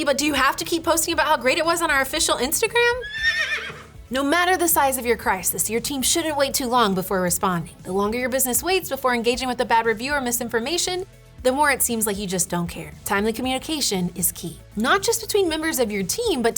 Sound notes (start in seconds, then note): 2.9 Secretariat neighing